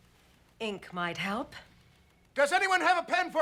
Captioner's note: shouting